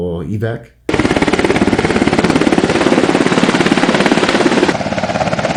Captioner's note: helicopter whirring